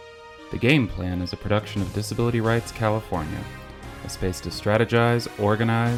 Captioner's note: voiceover